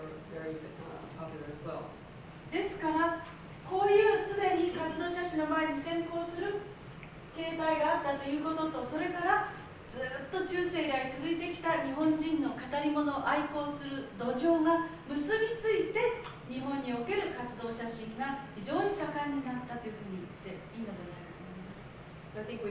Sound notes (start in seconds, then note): 3.3 speaking Japanes